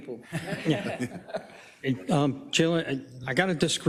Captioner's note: laugh